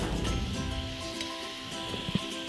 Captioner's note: whooshing; upbeat music